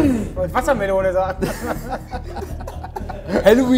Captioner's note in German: Lachen